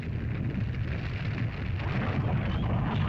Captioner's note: rumbling sound; lava bubbles & flows